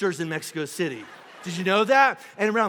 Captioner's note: congregation laughing